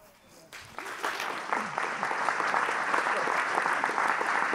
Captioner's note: audience applauding